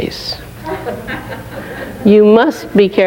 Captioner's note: laughing